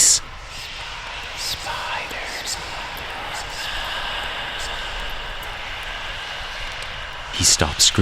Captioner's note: sinister Whispers